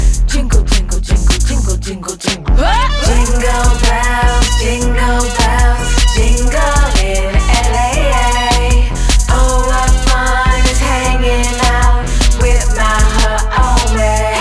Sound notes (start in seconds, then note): 2.6 yell